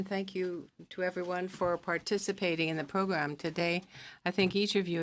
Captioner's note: speaking French